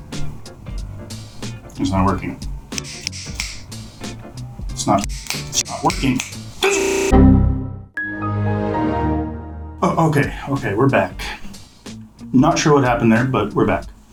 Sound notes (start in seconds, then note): 0.0 fingers snap; 2.7 fingers snap x3; 5.0 fingers snap several times; 6.5 crashed audio buzz; 7.2 Windows XP crash ding